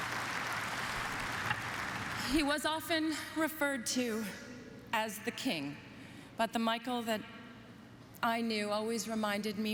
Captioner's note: apapplplauausese